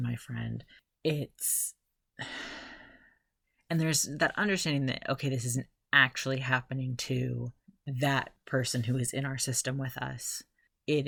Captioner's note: sigh